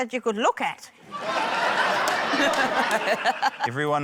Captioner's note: laughter